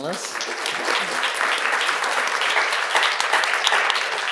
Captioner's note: audience applauding